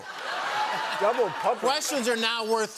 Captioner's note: laughter